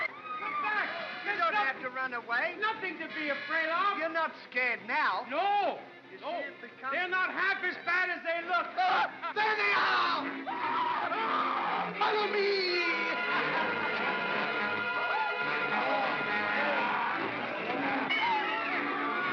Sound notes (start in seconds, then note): 9.5 Stan & Ollie scream; 13.0 suspenseful music